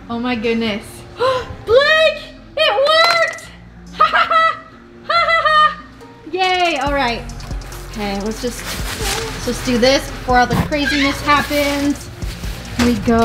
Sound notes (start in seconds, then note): 3.9 mom laughing